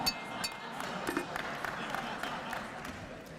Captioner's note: clapping